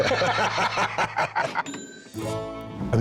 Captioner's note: both laugh; cash register rings